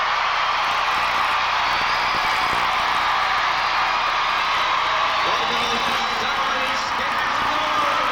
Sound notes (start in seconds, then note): 0.0 applause